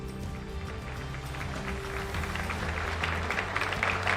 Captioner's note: audience clapping